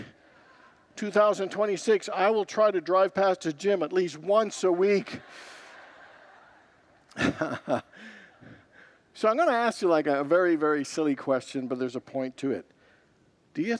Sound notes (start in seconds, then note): 7.4 congregants laugh